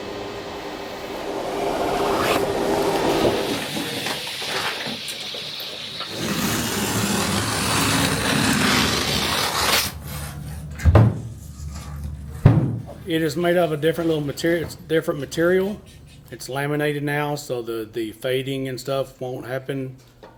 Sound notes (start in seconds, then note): 0.2 slicing; 4.2 cutting; 8.2 sign bangs on table